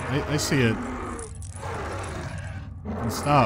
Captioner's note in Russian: рычание продолжается